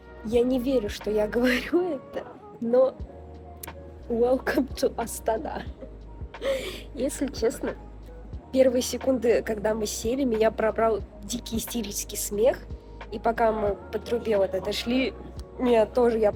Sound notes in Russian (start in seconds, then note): 6.4 вздох